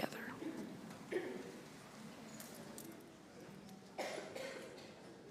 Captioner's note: congregation chatting